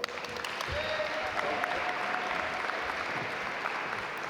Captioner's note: audience applaud